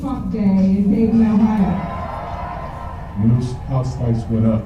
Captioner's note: applause